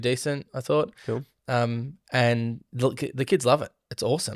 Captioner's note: imitates Drum Beat